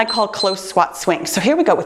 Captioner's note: timer beeps